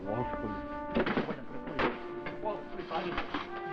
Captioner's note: sounds of furniture falling